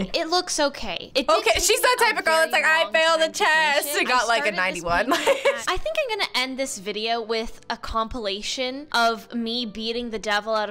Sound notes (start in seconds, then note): 4.9 laughs